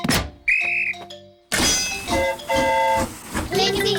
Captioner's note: blows whistle; train horn toots